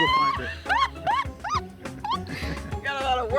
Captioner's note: laughs